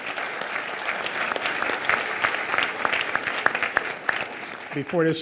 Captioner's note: audience applause